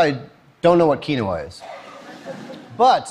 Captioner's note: Laughter; 笑聲